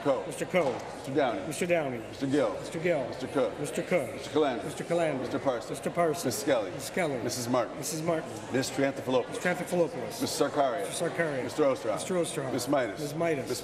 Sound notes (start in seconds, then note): none